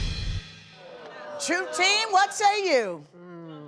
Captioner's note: audience boos